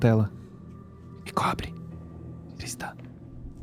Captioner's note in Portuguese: sussurrando